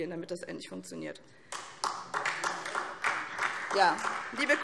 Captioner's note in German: Beifall SPD